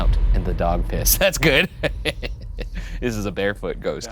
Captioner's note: laughs